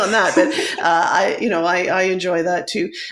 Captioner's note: laughs